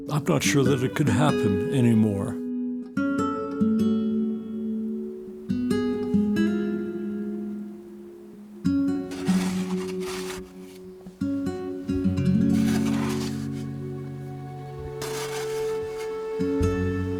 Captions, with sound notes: I'm not sure that it could happen anymore. (somber music) (tool scraping) (somber music)